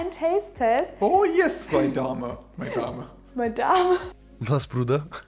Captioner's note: laughing